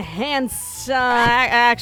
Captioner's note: record scratch